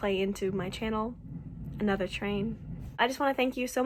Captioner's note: rumbling